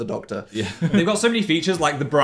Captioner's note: laughs